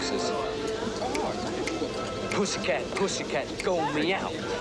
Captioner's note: snapping fingers